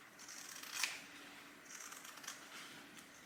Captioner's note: scissors snipping